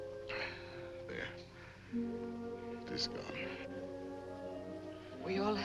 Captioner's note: gasp